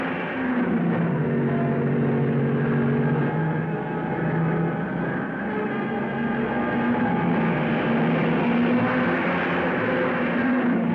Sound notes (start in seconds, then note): 2.2 cars revving; 2.2 dramatic music